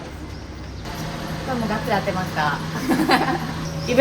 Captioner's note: laugh